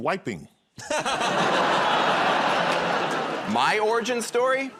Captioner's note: audience groans; laughs